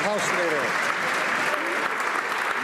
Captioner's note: some Applause